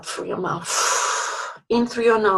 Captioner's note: exhales